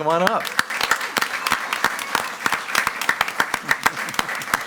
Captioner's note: all applauding